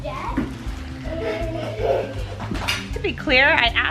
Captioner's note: boy laughing